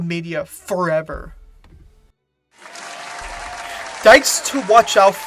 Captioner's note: audience clapping